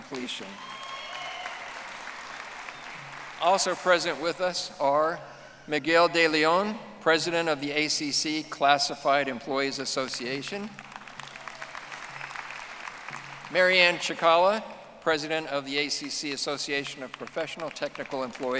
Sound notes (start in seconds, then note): 2.3 audience applauding; 12.9 audience applauding